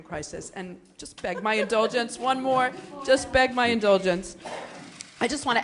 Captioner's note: laughter